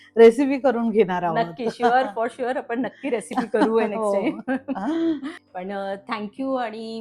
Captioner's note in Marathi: हास्य